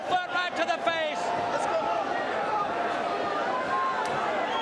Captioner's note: crowd chatter